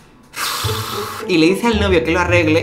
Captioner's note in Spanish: pffff